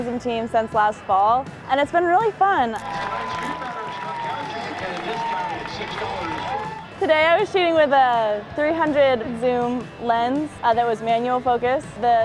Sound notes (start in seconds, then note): 4.7 background chatter